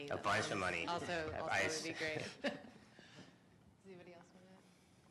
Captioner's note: laughs